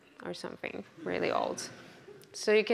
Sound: audience laughs

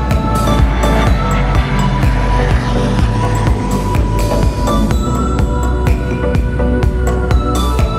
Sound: for sale music; sound of Pilatus PC-12 flying, low pass; for sale music

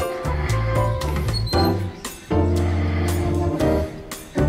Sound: door opens

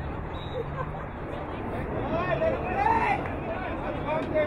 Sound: whistle blowing

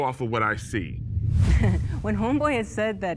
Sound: air quivers; chuckles

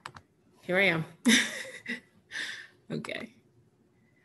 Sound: chuckles

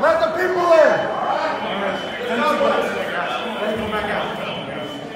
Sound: crowd murmuring

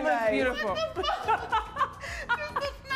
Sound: laughing

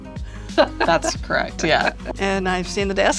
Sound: laughing

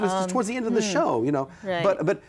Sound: laughs

